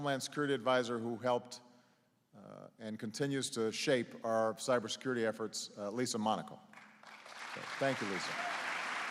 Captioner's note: applause